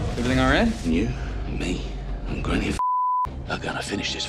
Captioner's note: beep